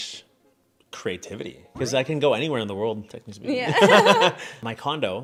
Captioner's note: laughs